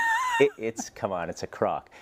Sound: laugh

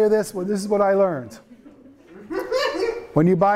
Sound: students laughing

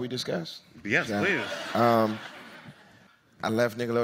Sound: audience laughs

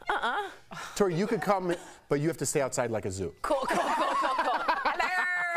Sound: laughter

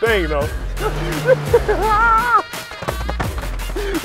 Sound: laughing

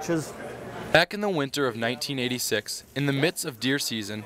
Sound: voiceover

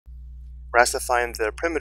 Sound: voiceover

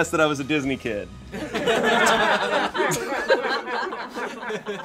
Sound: audience laughing

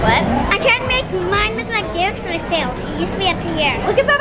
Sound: faintly speaking

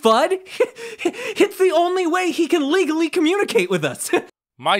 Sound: laughs

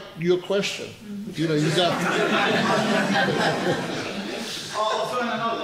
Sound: audience laughs

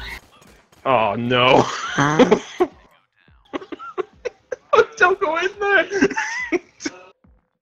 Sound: laughing

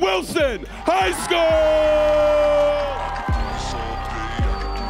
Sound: audience cheering

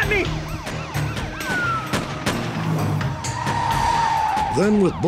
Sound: gunfire

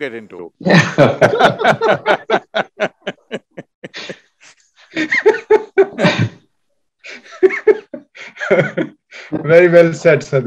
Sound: laughter

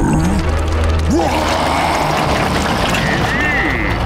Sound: roaring

